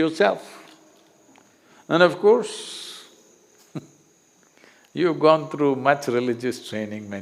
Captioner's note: laughs